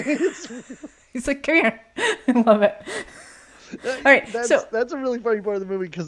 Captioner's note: both laughing; laughs